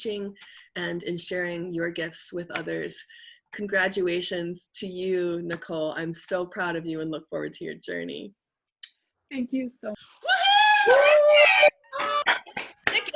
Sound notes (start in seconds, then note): 10.2 attendees cheering